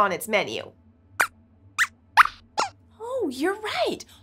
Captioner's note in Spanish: Squeaks chirría